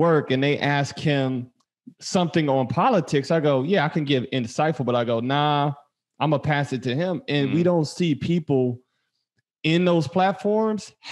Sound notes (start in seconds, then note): none